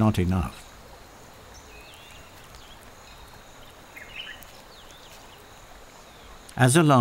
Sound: nature sounds

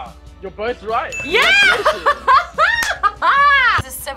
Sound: laughs

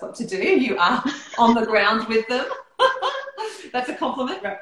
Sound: laughing

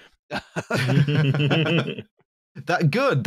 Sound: laughter

